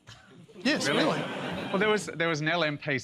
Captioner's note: laughter